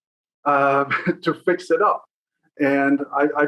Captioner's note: chuckle